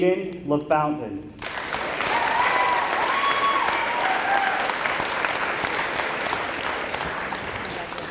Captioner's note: applause